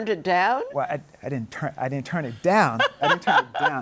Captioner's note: laughs